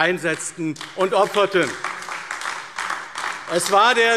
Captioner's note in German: Beifall AfD